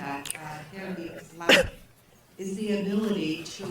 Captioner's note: cough drowns out voice